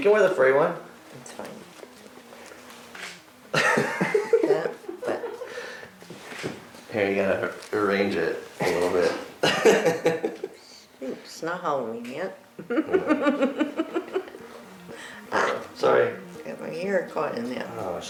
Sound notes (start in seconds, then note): 3.5 laughs; 8.9 laughs; 12.5 laughs